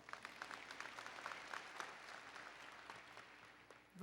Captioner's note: applause